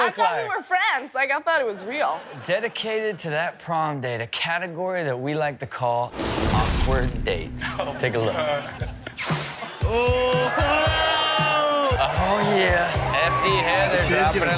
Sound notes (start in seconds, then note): 9.6 audience screaming